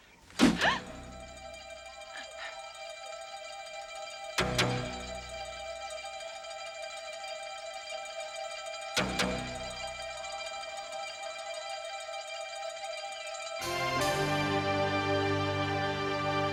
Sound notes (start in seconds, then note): 0.4 Taryn gasping; 4.5 dramatic music